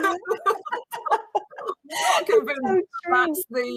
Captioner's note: laughs; chuckles